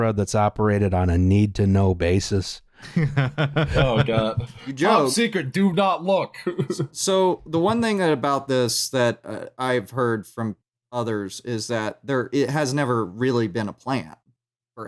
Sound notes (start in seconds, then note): 2.8 laughs